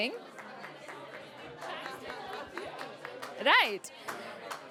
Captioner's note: chatter